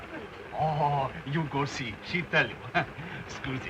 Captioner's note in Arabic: تضحك